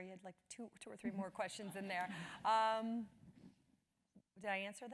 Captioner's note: laugh